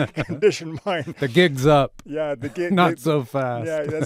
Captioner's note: chuckles; laughing